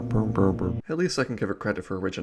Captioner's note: brm brm brmbrmbrm brm brm brmbrmbrm